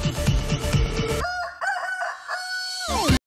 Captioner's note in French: ♫ Musique extrêmement dérangeante ♫; coq chante